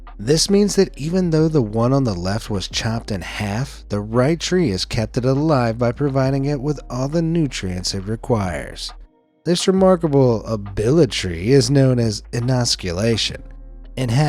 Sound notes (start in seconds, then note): none